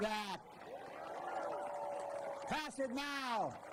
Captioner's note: applause